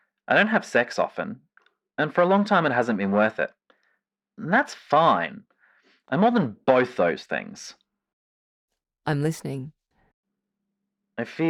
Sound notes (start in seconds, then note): none